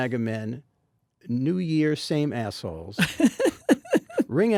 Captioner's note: Jennifer laughs